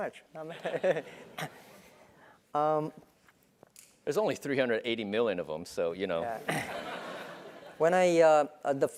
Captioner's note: laugh